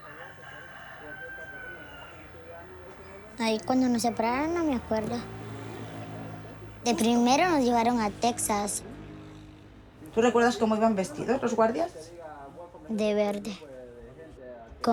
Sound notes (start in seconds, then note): 0.0 rooster crowing; 4.9 in Spanish; 11.7 in Spanish